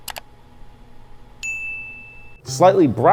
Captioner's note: ding